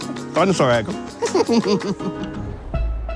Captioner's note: laughs